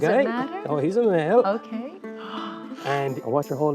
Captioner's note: gasps